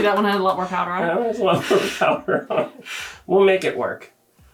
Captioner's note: laughs